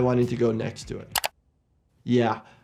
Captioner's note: mouse clicking